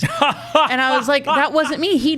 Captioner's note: laughing